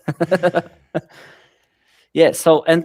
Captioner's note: laughs